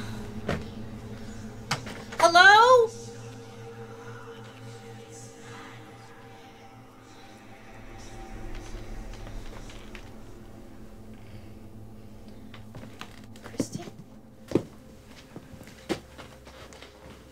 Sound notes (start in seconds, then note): 4.0 eerie whispering